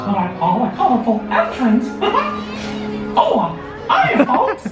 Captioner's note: giggling